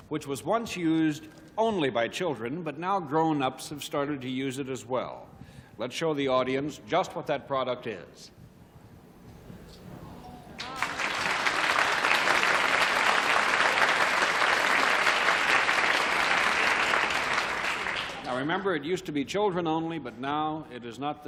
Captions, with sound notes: with the product which was once used only by children, but now grown-ups have started to use it as well. Let's show the audience just what that product is. [applause] Now, remember, it used to be children only,